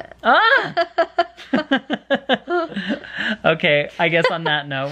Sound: laughing

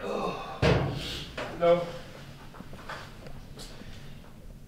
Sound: hammer thudding

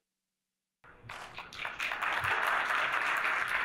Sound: applause

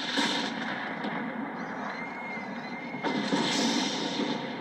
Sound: thunderclap; Sylveon screaming in distance

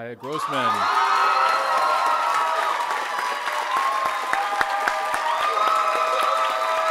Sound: audience cheering; audience applauding

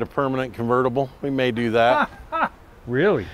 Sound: laughs

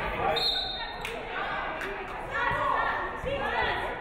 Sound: referee whistles

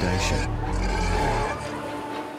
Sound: roars

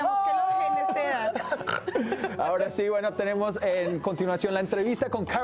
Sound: Risas

